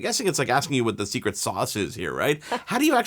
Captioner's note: laughs